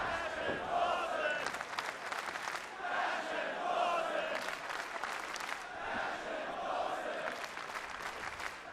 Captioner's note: fans chanting